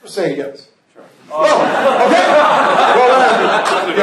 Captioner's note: laughter